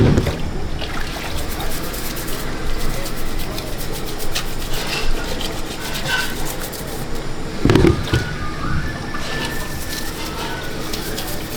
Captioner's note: water splashes; brush scrapes